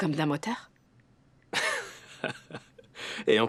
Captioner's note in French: rires